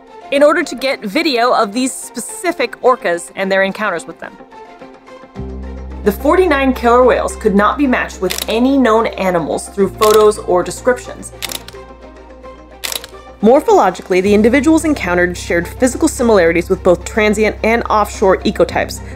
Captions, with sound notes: in order to get video of these specific orcas and their encounters with them. (background music) The 49 killer whales could not be matched with any known animals through photos or descriptions. (background music) (camera sound effects) "Morphologically, the individuals encountered shared physical similarities with both transient and offshore ecotypes,